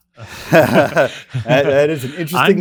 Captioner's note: laughing